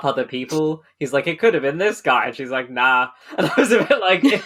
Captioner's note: laughing